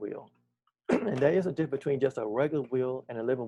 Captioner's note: clears throat